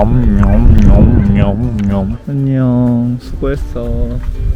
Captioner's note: camel Vocalization